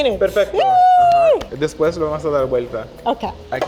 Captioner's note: speaking Spanish